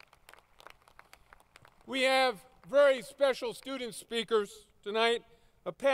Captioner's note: applause